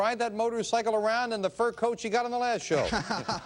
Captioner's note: laughing